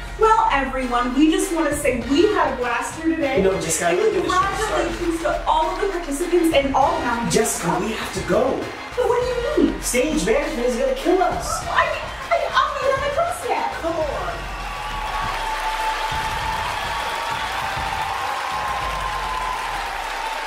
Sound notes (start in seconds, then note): 13.6 audience cheering